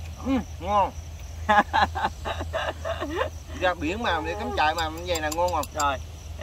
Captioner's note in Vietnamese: Tiếng cười